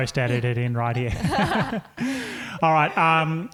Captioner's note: laughing